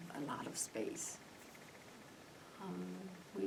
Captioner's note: none